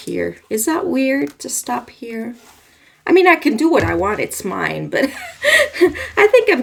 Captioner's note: laughs